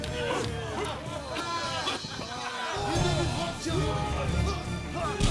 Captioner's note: jeering and laughing; shouting and cheering continues